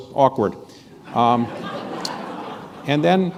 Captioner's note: laughter